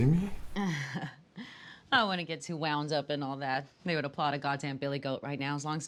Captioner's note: chuckles